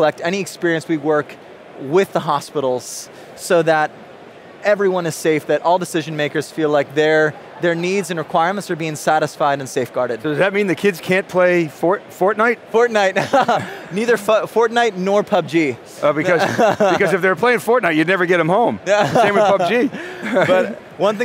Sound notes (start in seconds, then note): 13.1 laughs; 16.2 laughs; 18.8 laughs